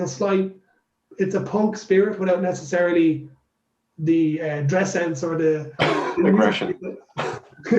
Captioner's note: laughs